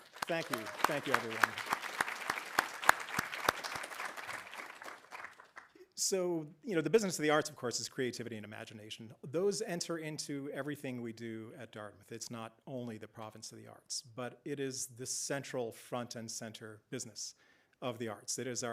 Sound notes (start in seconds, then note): 2.9 audience applauding